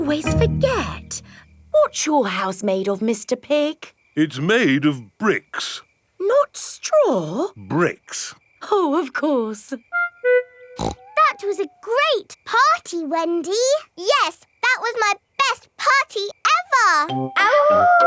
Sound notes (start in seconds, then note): 10.7 snorts